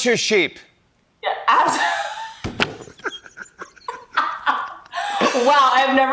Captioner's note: both laugh